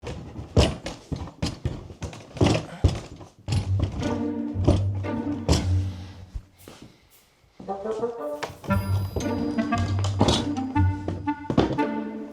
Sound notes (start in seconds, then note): 0.0 clattering; 3.5 mischievous music; 8.6 clattering